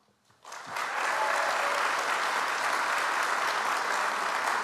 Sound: audience applauds

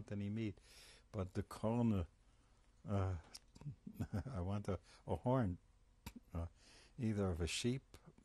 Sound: laughs

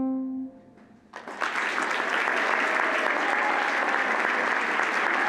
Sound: audience applauding

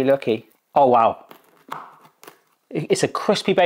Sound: crust crunches

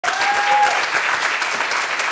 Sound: audience applauds

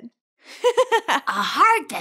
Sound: laughing

